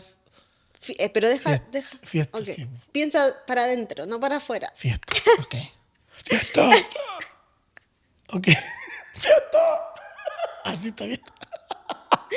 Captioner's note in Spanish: risas